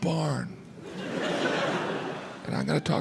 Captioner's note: crowd laughs